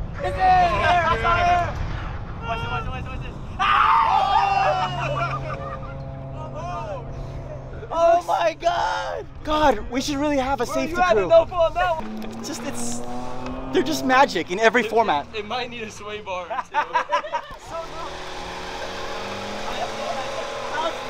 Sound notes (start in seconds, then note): 0.0 crowd chattering; 4.3 crowd laughing; 16.8 men laughing; 17.4 engine roaring